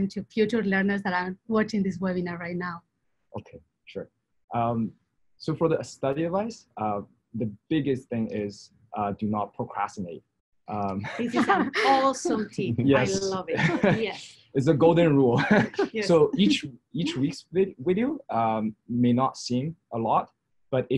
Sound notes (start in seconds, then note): 10.8 laughs; 15.1 laughs